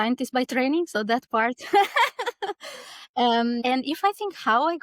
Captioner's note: laughing